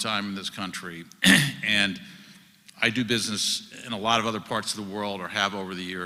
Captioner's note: cough